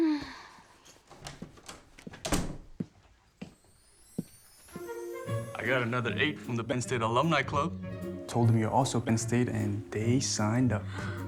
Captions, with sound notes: [door opens and closes] [footsteps] I got another eight from the Ben State Alumni Club. Told them you're also Ben State, and they signed up.